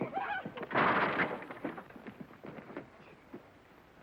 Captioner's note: gate crashing